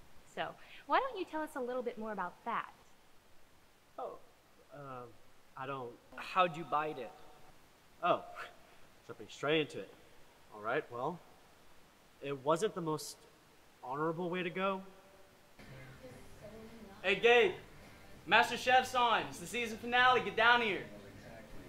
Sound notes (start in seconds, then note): 14.4 tv playing in background